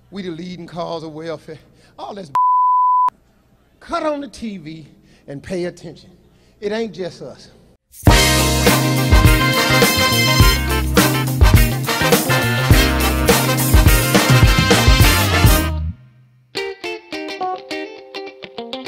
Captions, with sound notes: We the leading cause of welfare. All this (beep). Cut on the TV, and pay attention. It ain't just us. (Upbeat jazz music)